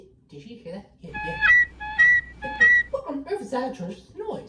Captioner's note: honk! HONK! HONK!